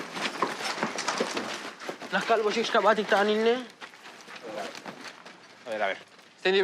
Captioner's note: speaking in Spanish